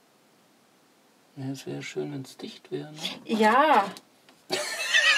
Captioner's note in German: lacht